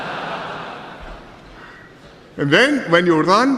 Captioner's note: laughter